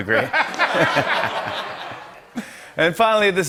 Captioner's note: laughter